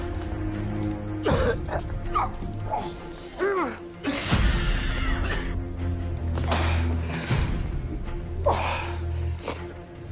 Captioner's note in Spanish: Tos y quejidos